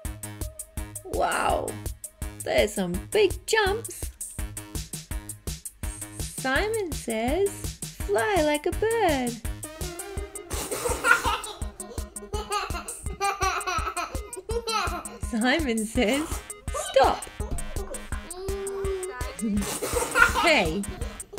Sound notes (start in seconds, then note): 13.6 children laughing; 16.5 laughing